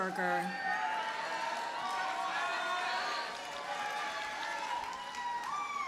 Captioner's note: audience cheers and applauds